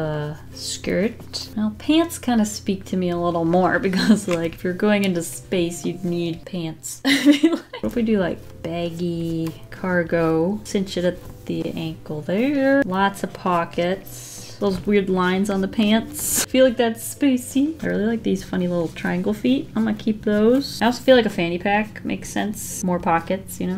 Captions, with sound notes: With a skirt. Now, pants kind of speak to me a little more because like if you're going into space, you'd need pants. [Laughs] What if we do like baggy cargo cinch it at the ankle there. Lots of pockets those weird lines on the pants. I feel like that's spacey. I really like these funny little triangle feet. I'm gonna keep those. I also feel like a fanny pack makes sense, more pockets, you know.